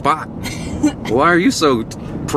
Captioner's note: Allison laughs